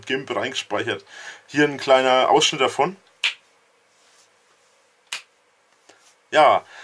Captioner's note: snap